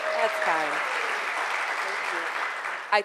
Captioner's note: cheers and applause